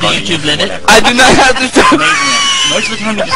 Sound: stammers; laugh

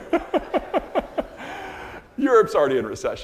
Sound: all laughing

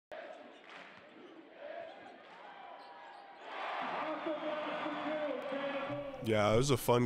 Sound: cheering

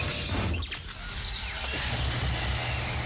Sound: electric crackling

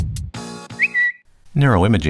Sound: Twitter sound

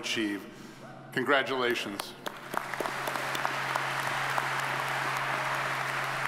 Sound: audience applauds

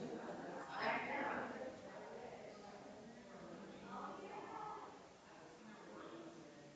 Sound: people chattering distantly continues

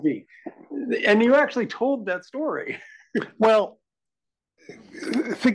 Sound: laugh

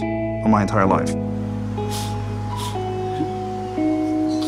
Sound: crying

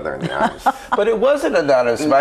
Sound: laughs

